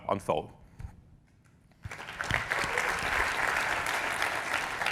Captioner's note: applause